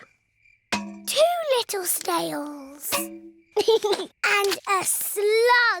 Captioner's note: george giggles